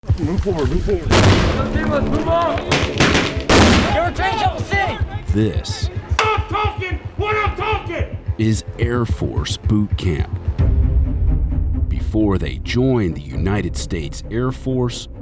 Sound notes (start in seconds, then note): 1.1 explosions